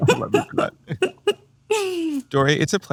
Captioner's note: laughs